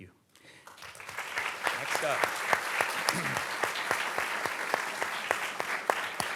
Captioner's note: audience clapping